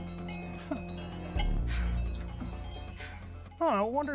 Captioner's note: metal clanking continues